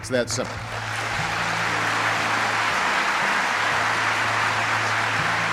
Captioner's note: audience applauding